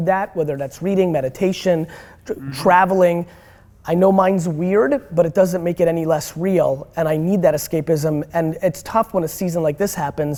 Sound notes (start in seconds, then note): none